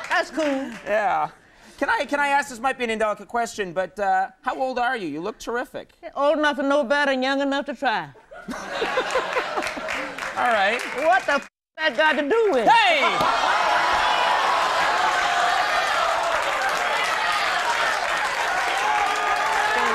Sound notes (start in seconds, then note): 8.4 audience applauding and laughing; 12.8 audience applauds and cheers